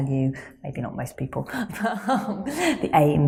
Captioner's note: laughs